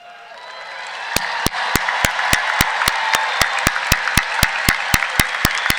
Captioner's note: cheering